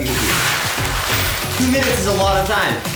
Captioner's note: coins clanging